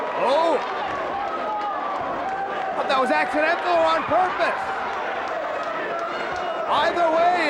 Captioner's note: applause